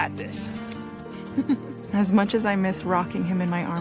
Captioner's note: chuckles